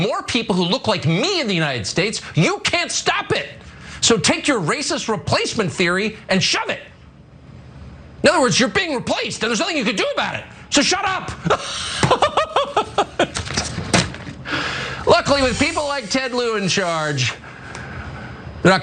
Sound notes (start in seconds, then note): 14.1 laugh